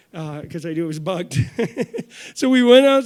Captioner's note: chuckles